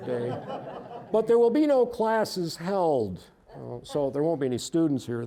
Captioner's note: audience laughing